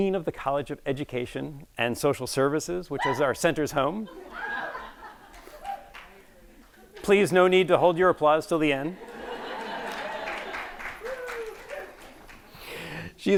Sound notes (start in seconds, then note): 4.2 audience cheering; 8.9 audience laughing; 9.0 audience applauding